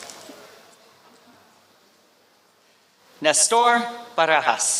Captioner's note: applause